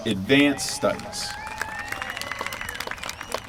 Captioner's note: applause